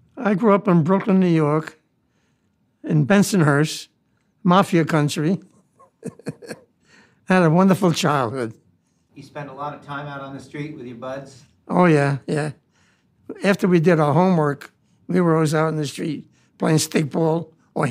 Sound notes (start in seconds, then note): 5.8 laughs